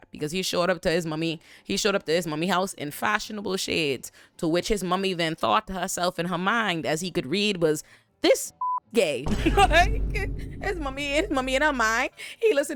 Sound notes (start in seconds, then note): 8.6 beep; 9.4 laughing